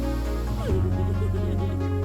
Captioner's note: me giggling